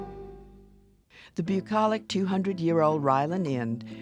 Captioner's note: voiceover